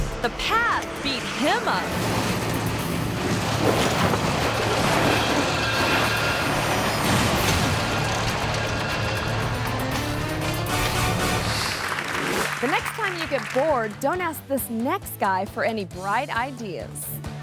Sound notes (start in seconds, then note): 2.1 dramatic music; 4.0 truck banging and crashing; 10.5 audience claps